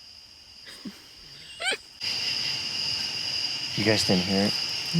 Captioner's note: sniggering